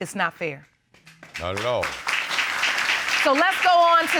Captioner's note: audience applauds